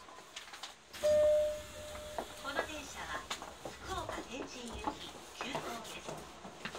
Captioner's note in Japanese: ポーン